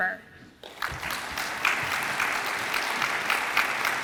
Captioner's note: audience applauds